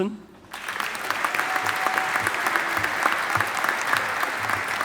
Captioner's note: audience applauding